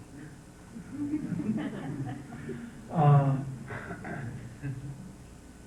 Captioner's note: laughter